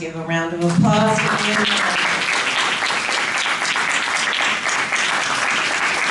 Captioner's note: applause